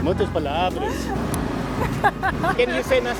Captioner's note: laughs